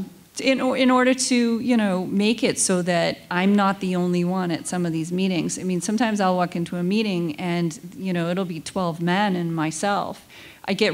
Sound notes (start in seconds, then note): none